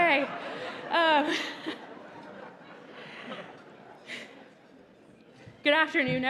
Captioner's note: laughter